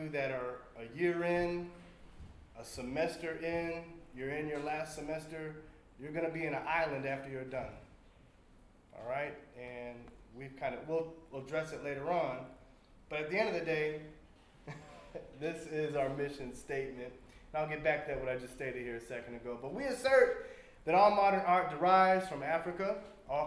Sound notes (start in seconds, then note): 14.6 laughs